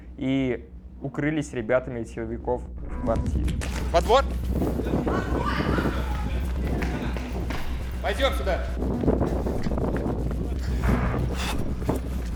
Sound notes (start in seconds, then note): 5.0 yelling; 8.6 heavy breathing